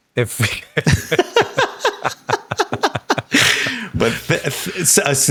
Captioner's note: Hank and Sam laughing